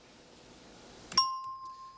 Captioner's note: ringing bell